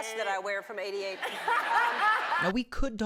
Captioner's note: laughs